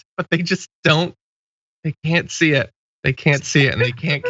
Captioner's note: laugh